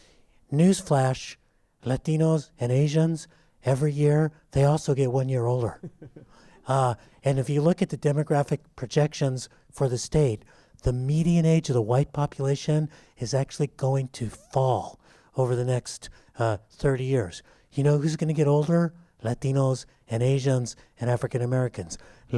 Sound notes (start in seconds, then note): 5.7 laughter